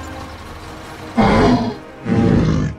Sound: jeep sound pulling up; triceratops growling

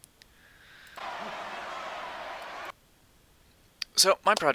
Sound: crowd cheering

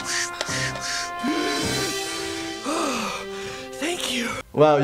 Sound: air hissing; deep inhale

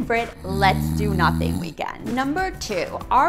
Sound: snoring

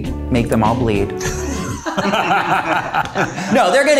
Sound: all laughing

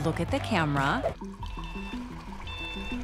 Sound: truck backing up

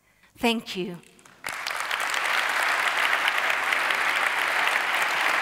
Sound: audience applauding

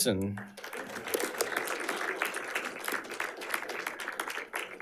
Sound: audience applauding

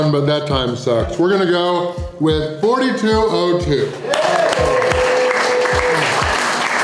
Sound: crowd clapping and cheering

